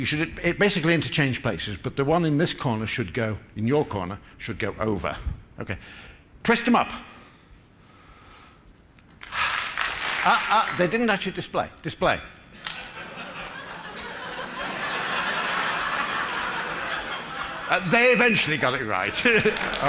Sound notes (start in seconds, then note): 9.2 applause; 16.3 laughter